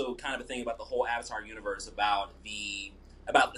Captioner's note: stammering